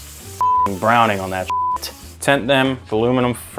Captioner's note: beep